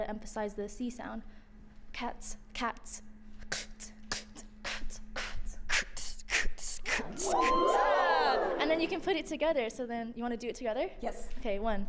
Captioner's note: beat boxing